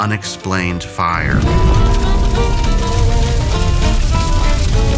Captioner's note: fire crackling